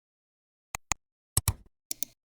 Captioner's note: 3 different clicks